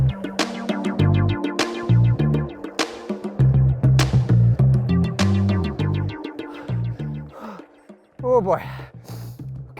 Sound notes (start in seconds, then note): 0.1 upbeat music; 6.4 gasping for air